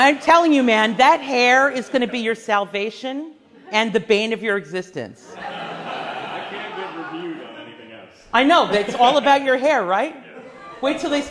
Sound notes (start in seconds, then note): 5.3 class laughs